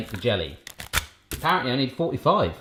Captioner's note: rustling